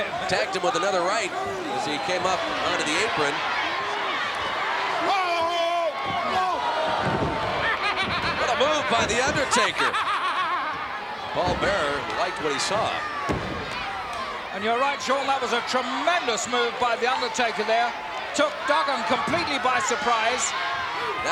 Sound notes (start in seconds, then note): 3.7 laugh; 9.8 laugh